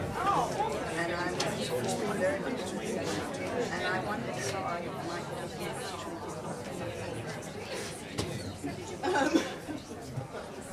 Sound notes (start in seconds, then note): 1.3 people chattering